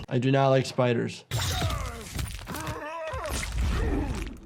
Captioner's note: fighter groans